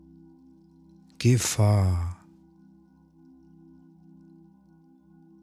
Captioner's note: german